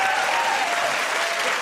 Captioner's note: cheers and applause